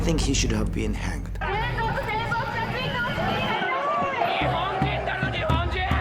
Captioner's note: shouting in Japanese; opponent shouting in Japanese